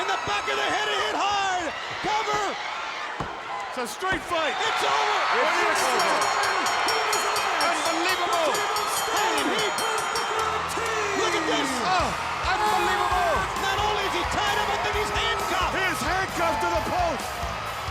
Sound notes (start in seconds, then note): 5.7 crowd cheering; 7.1 bell ringing